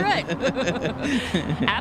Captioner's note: laughter